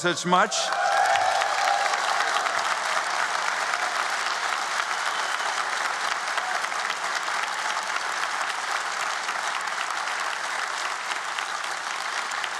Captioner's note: applause